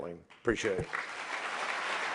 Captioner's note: applause